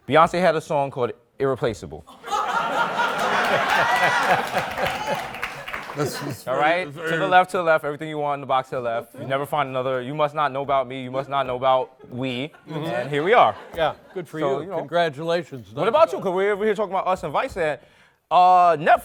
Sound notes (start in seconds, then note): 2.1 laughter; 2.9 applause